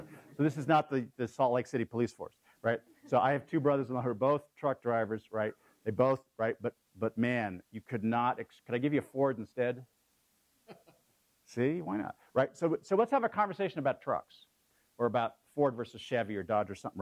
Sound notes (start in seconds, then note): 10.7 laugh